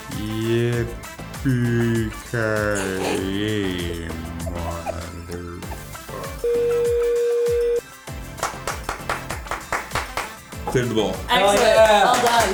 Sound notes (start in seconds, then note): 6.4 beep; 8.2 producers applaud